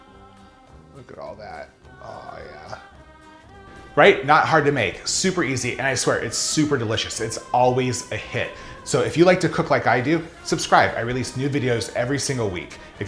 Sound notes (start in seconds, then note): none